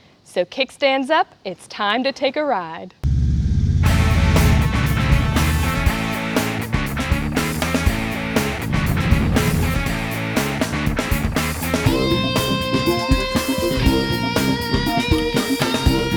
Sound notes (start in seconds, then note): 3.2 motorcycle engine rumbling; 4.1 upbeat rock music continues; 9.0 motorcycle engine roaring; 10.0 upbeat rock music continues